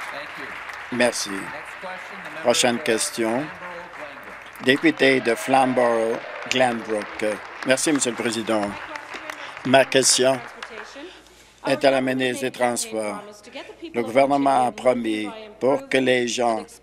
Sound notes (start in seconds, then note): 1.1 applause; 9.5 applause; 10.3 cheers